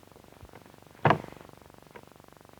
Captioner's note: thud